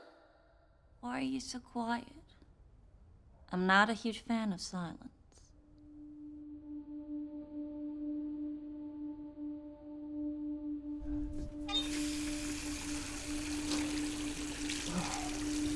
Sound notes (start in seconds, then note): 9.0 dramatic music; 11.4 water running